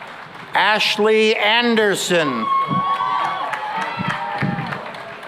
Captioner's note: cheering and applause